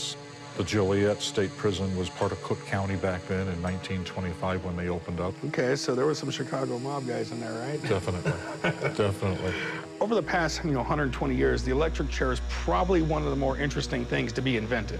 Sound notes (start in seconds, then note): 7.8 Corey laughs